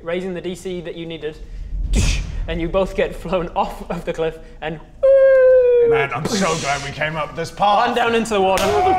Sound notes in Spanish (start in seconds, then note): 5.7 Splash